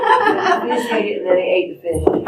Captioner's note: laughter